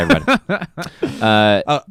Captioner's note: laughs